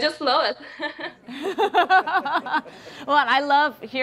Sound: laughter

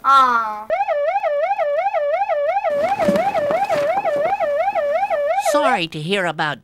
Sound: siren

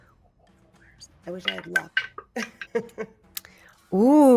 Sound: dice clatters

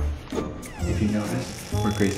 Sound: door creaks

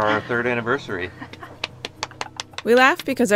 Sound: laughing

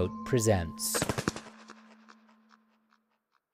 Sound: echoing Wingflaps SFX

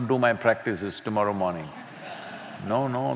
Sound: laughter

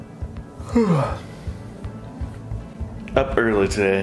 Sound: yawns

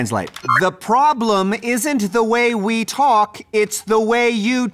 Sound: enunciates

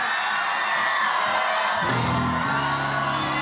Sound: crowd cheering; slow instrumental music

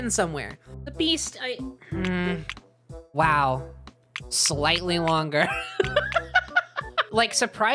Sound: laughing

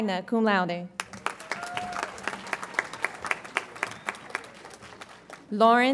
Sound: audience applauds

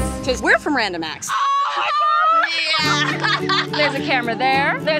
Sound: laughing

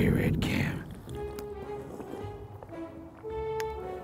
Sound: sips

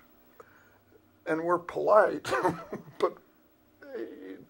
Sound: laughs

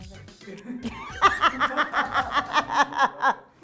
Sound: all laughing

